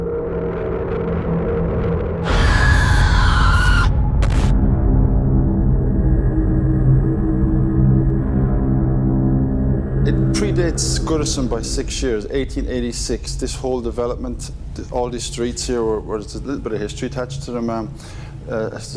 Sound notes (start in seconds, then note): 0.1 ominous music; 2.2 screeching; 2.7 ominous music